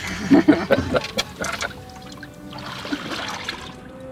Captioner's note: both laugh